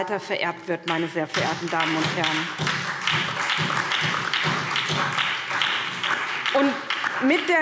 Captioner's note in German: Beifall SPD und DIE LINKE